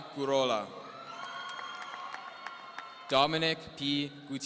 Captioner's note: audience cheering